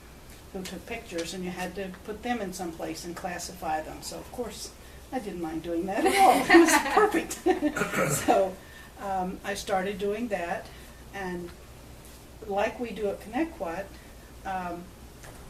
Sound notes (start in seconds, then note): 6.1 all laugh